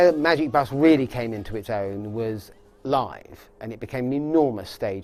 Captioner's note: mimicking guitar